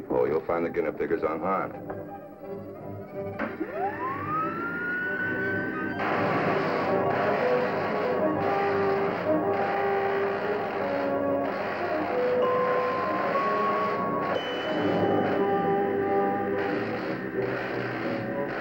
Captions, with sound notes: You'll find the guinea pig is unharmed. [machine whirring] [zapping] [dramatic music]